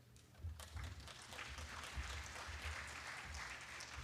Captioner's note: applause